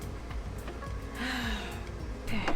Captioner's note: deep sighs